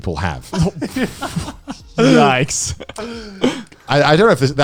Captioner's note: laughs